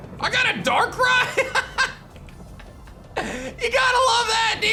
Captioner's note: laughs